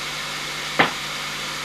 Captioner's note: knock